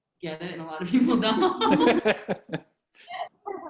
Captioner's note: laughs